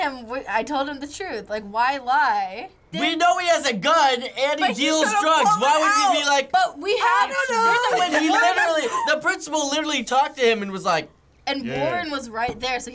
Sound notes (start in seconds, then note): 6.4 feminine voice; 11.1 deep voice